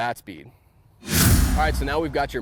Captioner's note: air whooshing